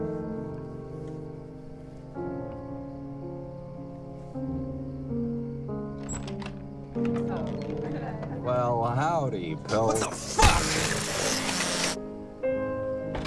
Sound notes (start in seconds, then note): 5.9 door opening; 10.0 electric knife buzzing; 13.1 door closing